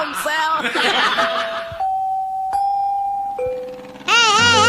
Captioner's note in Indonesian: tertawa